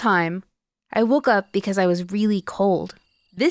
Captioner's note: crickets chirping